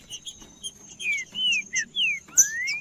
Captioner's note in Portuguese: trinca ferro cantando